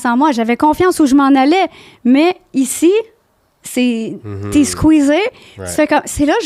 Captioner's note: in french